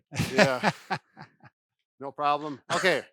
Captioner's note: laughs